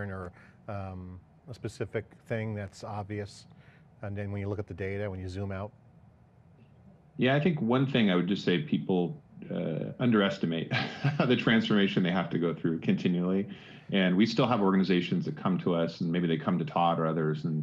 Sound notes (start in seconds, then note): 10.7 laughs